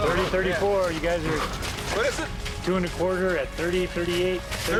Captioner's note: heavy breathing